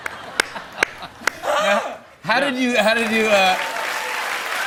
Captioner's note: cheers and applause